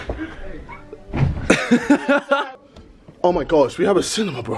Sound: laughing

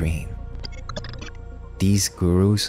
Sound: glitch sound effects

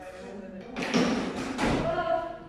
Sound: gallery noises

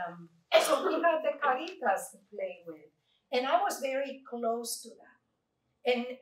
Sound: Spanish

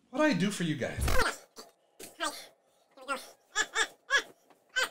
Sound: squeaky laughing

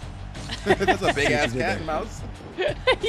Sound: laugh

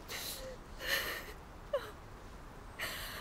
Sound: Googly sobbing

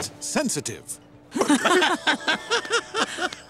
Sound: laughing

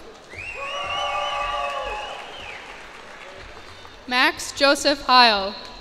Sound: cheers and applause

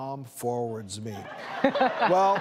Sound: audience laughs

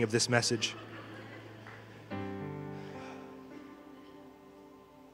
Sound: congregation laughing

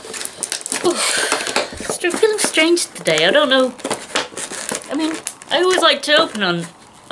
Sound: sigh

